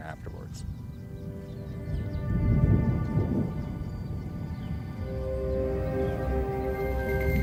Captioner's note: wind blowing; serene music